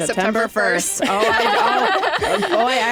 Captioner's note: laughter